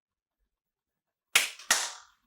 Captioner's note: clap x2; clap x1